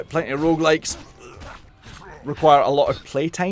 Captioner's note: ugh